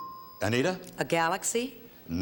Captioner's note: ding